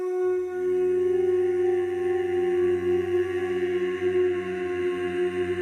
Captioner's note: steady tone; humming